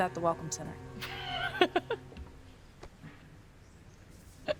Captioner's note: Claire laughs